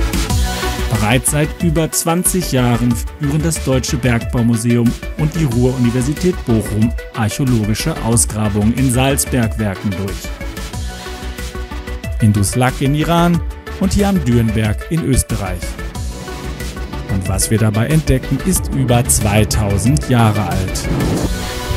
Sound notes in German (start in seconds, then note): 15.2 tiefes Grollen